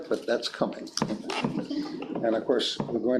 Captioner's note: board members chuckling